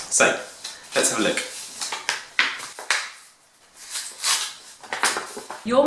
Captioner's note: none